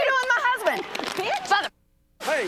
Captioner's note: muted